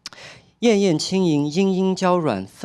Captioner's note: speaking chinese